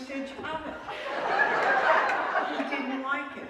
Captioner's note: laughter